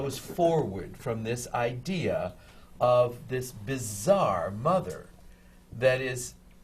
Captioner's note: none